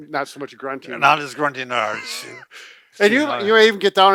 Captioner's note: laughing